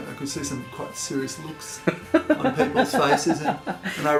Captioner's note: laughter